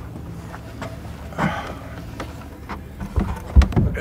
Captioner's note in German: Seufzen